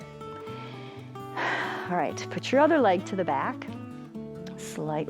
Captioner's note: exhales